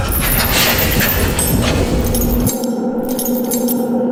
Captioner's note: metal clanging